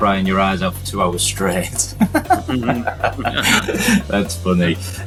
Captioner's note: laughing